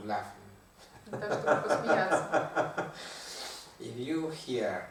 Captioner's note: hahaha